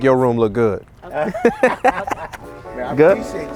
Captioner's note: laughing